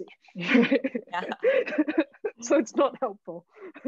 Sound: all laughing

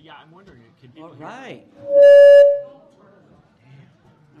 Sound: feedback

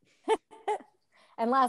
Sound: laughs

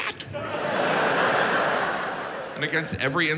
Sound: audience laughs

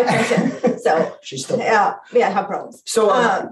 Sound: chuckles

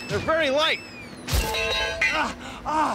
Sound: metallic clanking

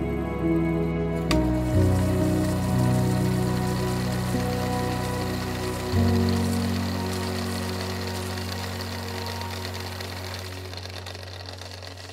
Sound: film rewinder clicks; fast film rewind noises

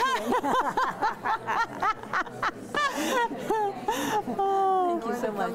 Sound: laughing

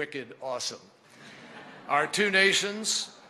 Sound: laughter

